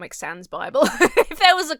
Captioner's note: Emma laughs